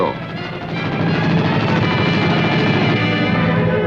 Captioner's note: rapid gunfire